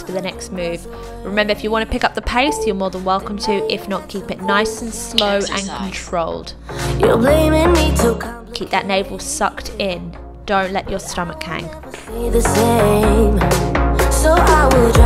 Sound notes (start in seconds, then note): 5.2 machine beeping; 6.7 upbeat pop music; 11.0 upbeat pop music